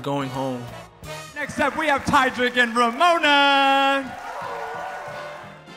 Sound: crowd cheers

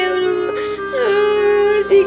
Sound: crying continues

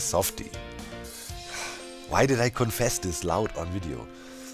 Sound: sighs

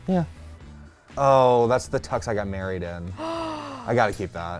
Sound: gasps

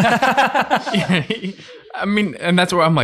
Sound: group chuckling

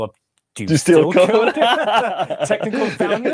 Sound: laughing

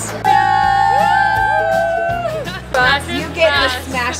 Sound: cheering

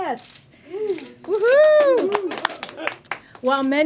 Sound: applause

